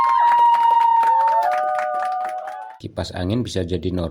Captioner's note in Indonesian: bersorak; tepuk tangan